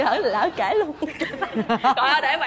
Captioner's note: laughs